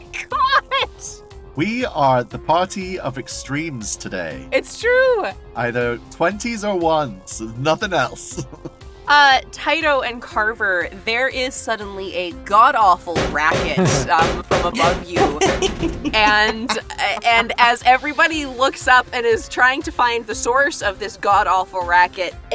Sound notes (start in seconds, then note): 0.9 laughs; 13.1 banging on metal